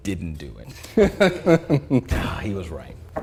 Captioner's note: laughing